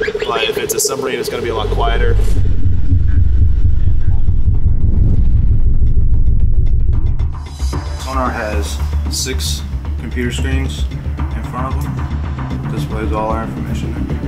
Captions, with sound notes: But, if it’s a submarine, it’s going to be a lot quieter. [Submarine pulsing] Sonar has six computer screens in front of them that displays all our information there.